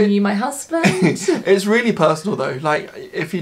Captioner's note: chuckles